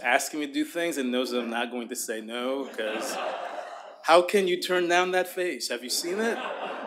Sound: laughter

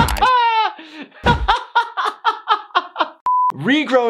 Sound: laughing

